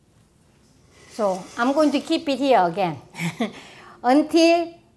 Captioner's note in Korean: 웃음